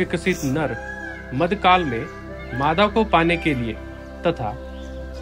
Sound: peacock Call

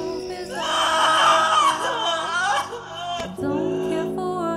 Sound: cries

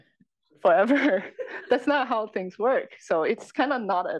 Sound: laugh

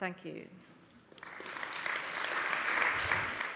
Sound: applause

